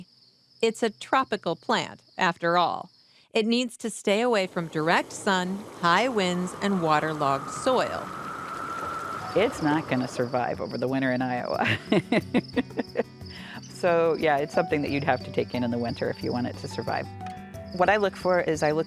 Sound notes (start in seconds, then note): 11.6 laughs